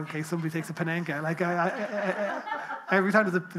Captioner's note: people laughing